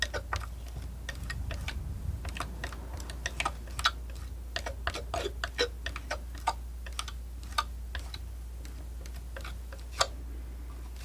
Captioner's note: tapping